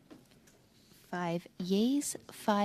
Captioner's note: speaking French